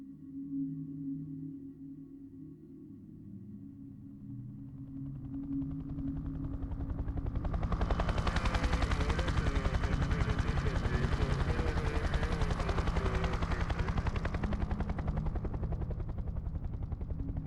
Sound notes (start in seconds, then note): 0.2 somber music; 5.1 helicopter flying; 14.6 somber music